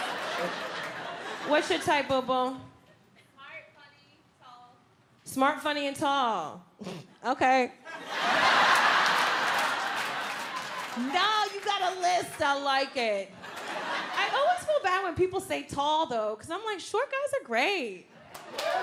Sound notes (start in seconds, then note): 7.0 snorts; 7.9 audience laughs